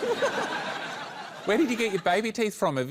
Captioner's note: laughter